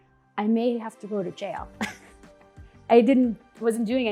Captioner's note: laughing